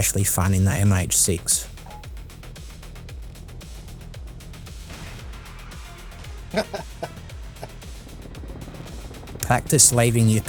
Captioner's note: cheeky laugh